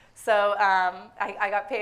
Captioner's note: none